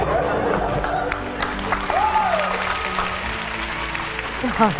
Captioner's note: cheering